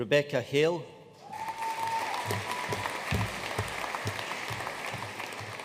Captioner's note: audience cheering and applauding